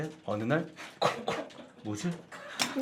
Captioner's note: coughing